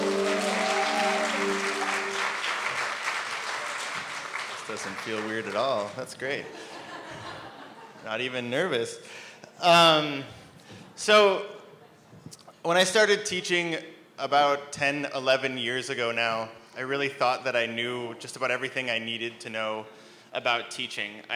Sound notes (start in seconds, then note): 0.0 bright piano tune; 0.0 applause; 6.4 laughter